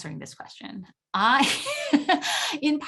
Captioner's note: laughter